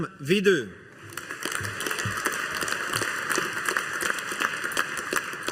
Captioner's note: audience applauding